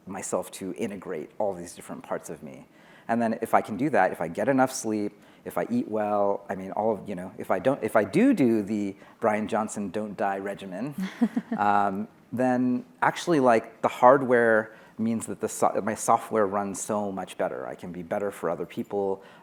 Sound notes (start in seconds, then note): 11.0 laughing